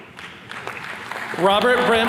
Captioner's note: attendees clapping